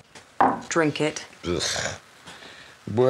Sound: scoffs

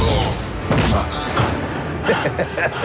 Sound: laser whizzing; janitor thudding; janitor breathing heavily; repairman laughing evily

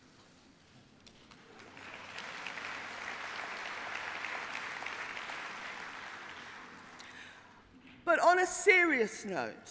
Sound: applause; cheering

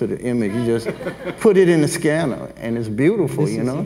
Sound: everyone laughs

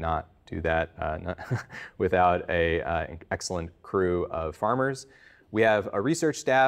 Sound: chuckles

